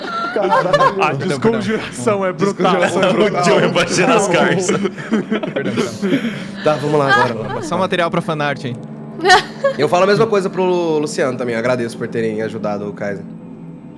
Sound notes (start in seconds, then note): 9.2 laughs